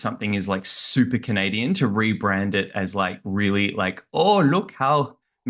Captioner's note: trying a canadian accent